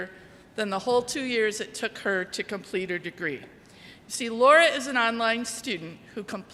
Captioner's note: none